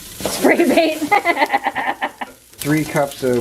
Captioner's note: laughter